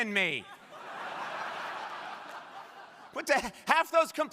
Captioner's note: crowd laughing